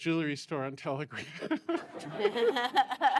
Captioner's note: laughter